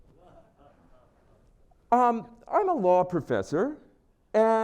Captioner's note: laugh